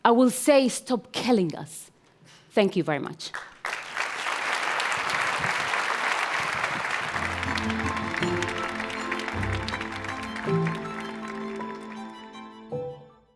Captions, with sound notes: I will say, "Stop killing us." Thank you very much. (Audience applauds)